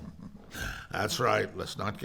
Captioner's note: chuckles